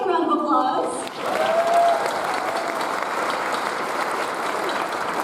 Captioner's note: audience applauds